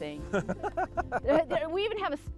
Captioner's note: laughing